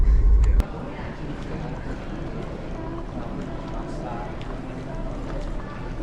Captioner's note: background Airport Sounds